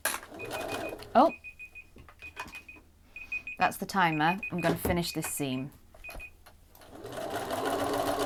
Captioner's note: sewing; beeping; sewing continues